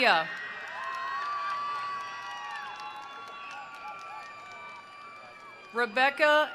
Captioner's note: attendees cheering; attendees applauding